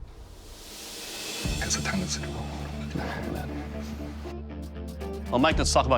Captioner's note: whispering